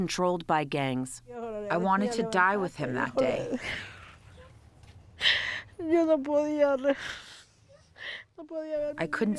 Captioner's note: through translator